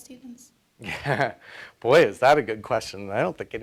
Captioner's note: laughs